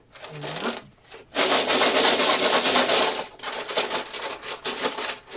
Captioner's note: dice mixing